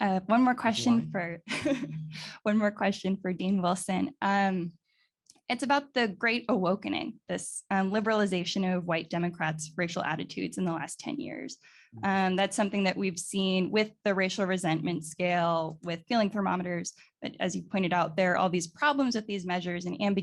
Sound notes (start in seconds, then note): 1.6 laughs